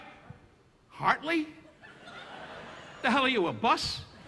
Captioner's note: audience laughing